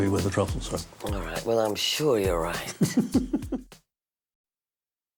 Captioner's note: Albee laughs